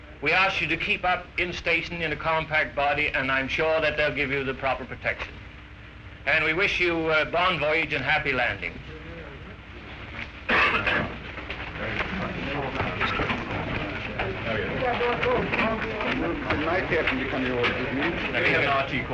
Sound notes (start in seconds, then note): 9.3 men talking